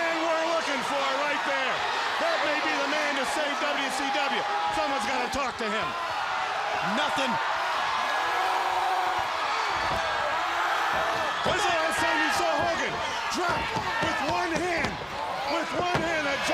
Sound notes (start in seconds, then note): 9.0 crowd cheering